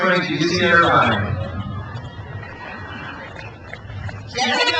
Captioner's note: crowd cheers